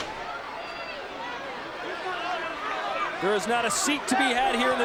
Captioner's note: audience chattering